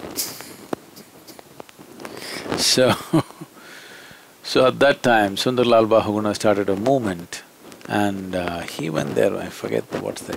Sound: laughs

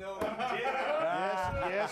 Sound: scattered laughs

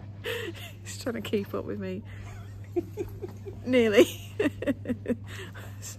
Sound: giggles

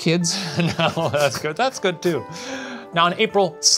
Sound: laughing

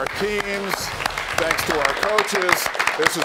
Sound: audience applauds

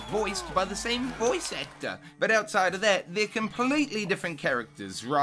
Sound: applause

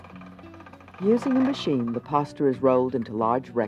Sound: calm music; voiceover

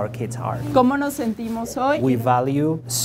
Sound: Spanish

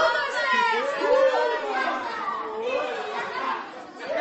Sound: loud chaos

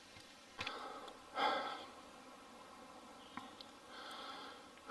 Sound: heavy breathing

